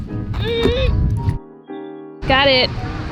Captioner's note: grunting